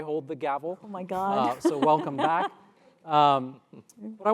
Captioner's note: laugh